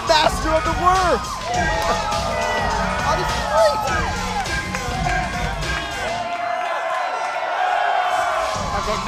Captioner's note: crowd cheering